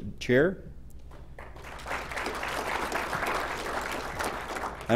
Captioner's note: applause